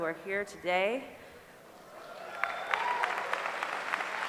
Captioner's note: applause